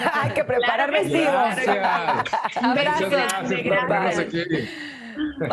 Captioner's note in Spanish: risas